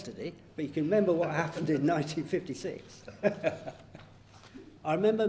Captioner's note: both laughing